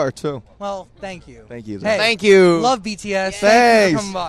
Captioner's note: everyone says thanks